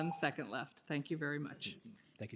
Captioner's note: timer tone